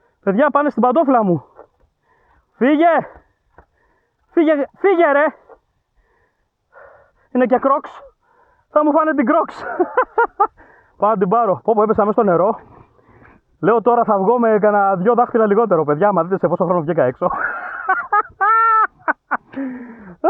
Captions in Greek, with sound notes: Παιδιά πάνε στην παντόφλα μου. Φύγε, φύγε, φύγε ρε. Είναι και Crocks. Θα μου φάνε την Crocks. [γέλια] Πάω να την πάρω. Πω πω, έπεσα μες στο νερό. Λέω τώρα θα βγω με κανα δυο δάχτυλα λιγότερο. Παιδιά, άμα δείτε σε πόσο χρόνο βγήκα έξω.